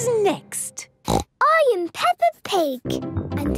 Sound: snorts

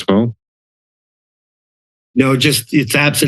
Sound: silence

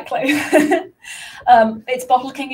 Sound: laughs

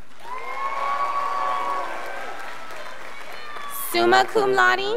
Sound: scholars applauding

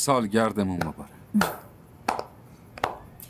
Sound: claps

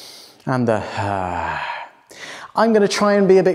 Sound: exhaling

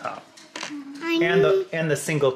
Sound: mumbles

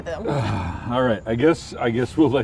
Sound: sighs

